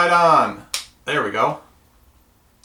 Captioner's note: toothbrush snaps